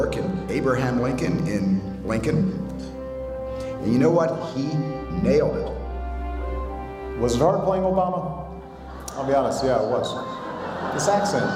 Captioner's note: laughter